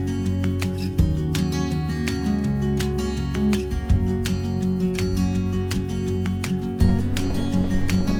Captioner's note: wind blowing